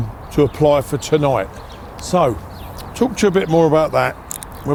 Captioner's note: none